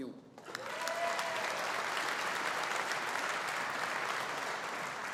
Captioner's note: audience applauding